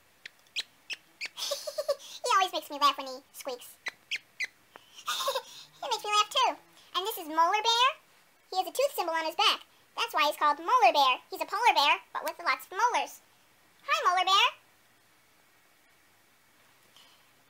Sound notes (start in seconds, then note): 0.1 monkey squeaking; 1.2 giggles; 3.8 squeaking again; 4.8 giggling